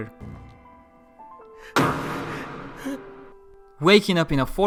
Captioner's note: sound of an ax